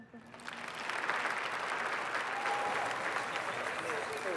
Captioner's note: audience applauding